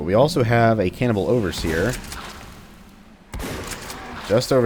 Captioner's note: Bugdogs snarling, Shotgun shotgunning